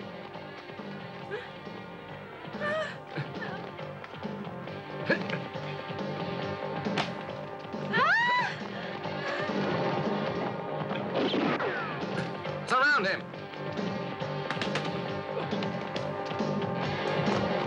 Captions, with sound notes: (upbeat music) (woman muttering fearfully) (woman screams) (gun blasts) Surround him! (upbeat, dramatic music)